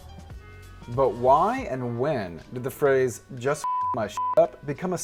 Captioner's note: beep